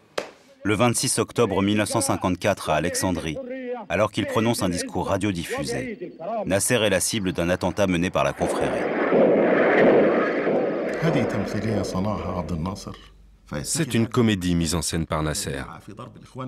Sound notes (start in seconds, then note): 8.2 explosion sounds